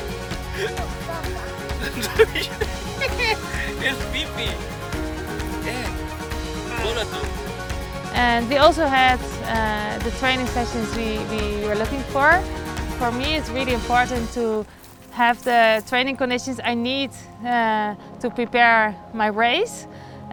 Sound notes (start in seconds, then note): 0.3 laughs; 4.5 lots of laughs